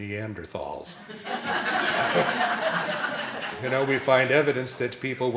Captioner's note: laughing